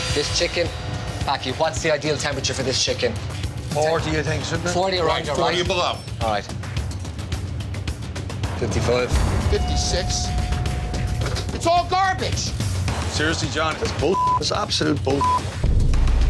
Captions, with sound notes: This chicken, Packie, what's the ideal temperature for this chicken? - 40, you think, should be? - 40 or under. - Right, 40 or below. - All right. (intense music continues) 55. - 56. It's all garbage! - Seriously, John, that's (beep), that's absolute (beep).